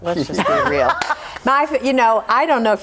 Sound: laughs

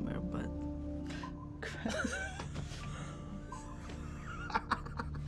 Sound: chuckles

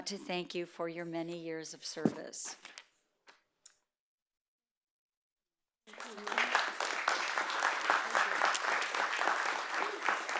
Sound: applause

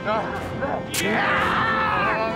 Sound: screaming

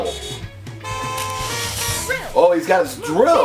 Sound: cars honking

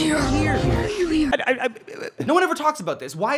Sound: John Mulaney babbles

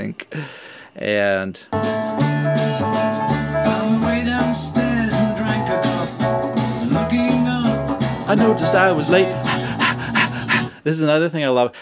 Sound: panting noise

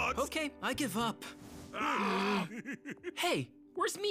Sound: laughing

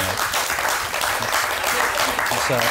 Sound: applause

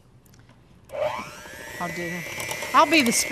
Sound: mixer whirs

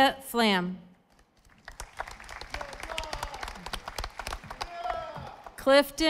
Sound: audience applauding

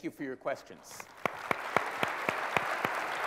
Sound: applause

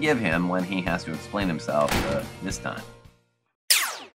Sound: Dr Derango wifes slams the door

